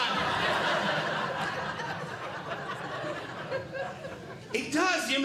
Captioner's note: audience Laughing